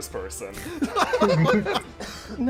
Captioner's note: laughter